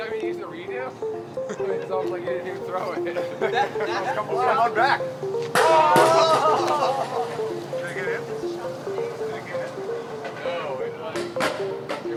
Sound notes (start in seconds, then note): 0.1 mingling chatter; 4.5 disc hits ground